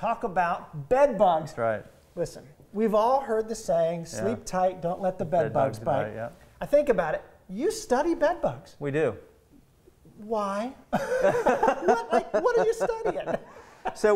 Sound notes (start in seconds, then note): 10.9 laughing